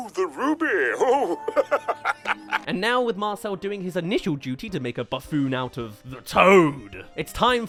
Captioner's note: laughs